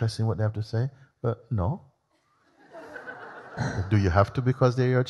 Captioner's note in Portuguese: risos